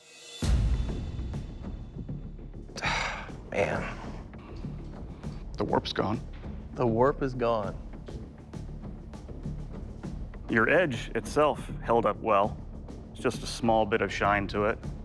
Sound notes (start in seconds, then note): 0.2 tense music playing; 2.7 sighs